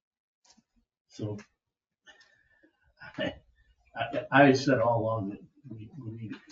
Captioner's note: laughs